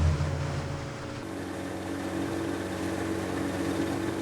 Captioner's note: boat engine runs